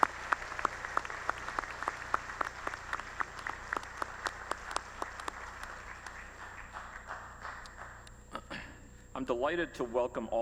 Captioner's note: applause